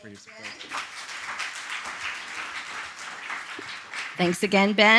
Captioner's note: applause